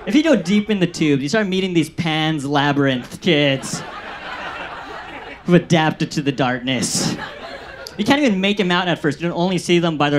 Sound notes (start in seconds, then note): 4.3 audience laughs